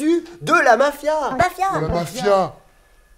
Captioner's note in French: voix trafiquées